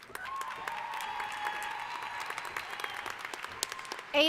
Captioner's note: applause